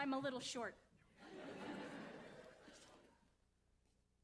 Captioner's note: audience laughs